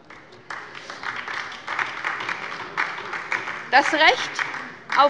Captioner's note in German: Beifall bei der LINKEN